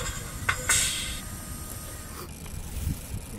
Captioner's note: the rattling stops